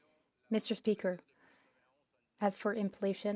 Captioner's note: speaking French